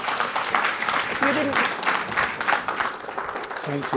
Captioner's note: applause